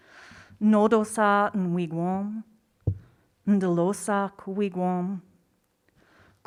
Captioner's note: speaking in foreign language